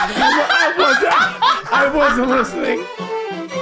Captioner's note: group laughing